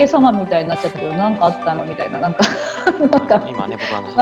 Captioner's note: laugh